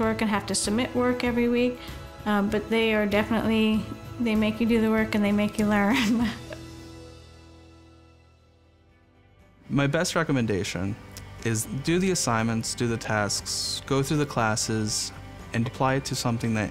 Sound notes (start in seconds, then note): 8.7 laughing